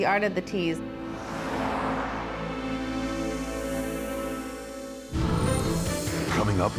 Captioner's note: gentle suspenseful music; car whooshing